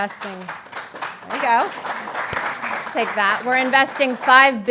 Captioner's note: applause